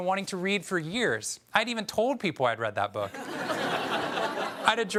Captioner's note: audience laughs